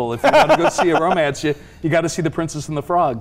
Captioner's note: laughing